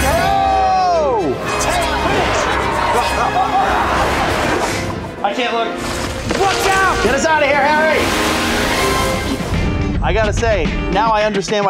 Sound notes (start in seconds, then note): 2.6 both laughing; 8.7 upbeat music